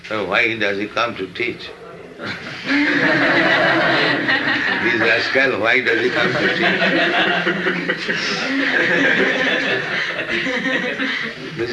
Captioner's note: laughter